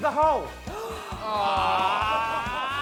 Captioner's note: gasping, exclaiming